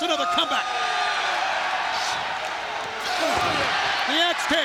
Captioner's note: audience cheers